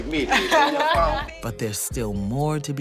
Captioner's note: laughter